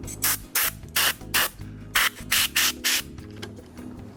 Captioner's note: air hissing